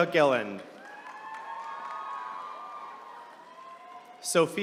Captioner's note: attendees cheering